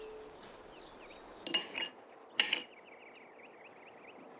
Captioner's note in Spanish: Sonido de los cubiertos